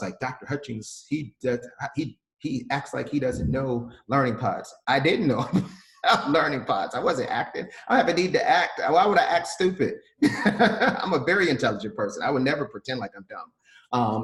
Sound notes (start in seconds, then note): 10.2 laughs